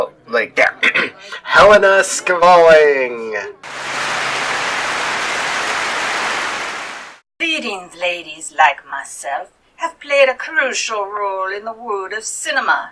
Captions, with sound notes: Like that, Helena Skvalling! [Clapping] Leading ladies like myself have played a crucial role in the world of cinema.